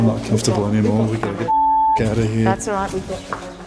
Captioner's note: beeping